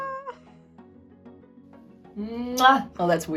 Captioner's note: kiss